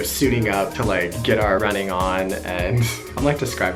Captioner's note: laughs